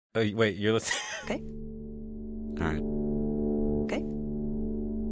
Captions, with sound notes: Wait. Wait. You're listening (laughter)... OK? All right. OK?